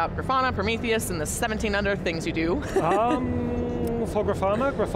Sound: laughs

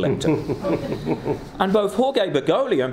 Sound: laughing

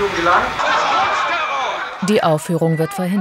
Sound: shouts

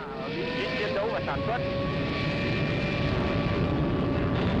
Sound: planes roaring

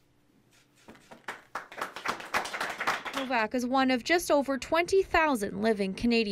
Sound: applause

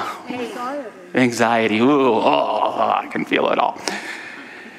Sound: shivers with sound

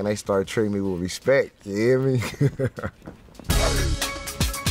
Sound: laughs

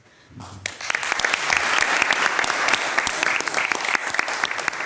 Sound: all loudly applauding

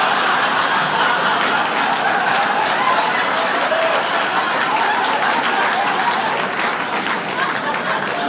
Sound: audience applauding; audience laughing

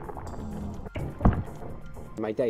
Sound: thunk

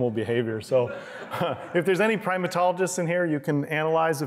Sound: laughter

